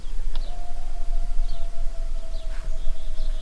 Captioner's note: distant howl